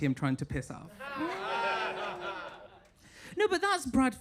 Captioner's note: audience laughing